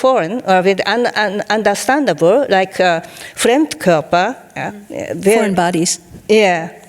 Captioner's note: speaking in foreign language